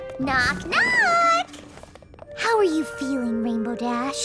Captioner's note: none